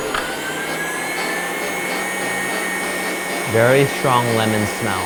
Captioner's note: machine churning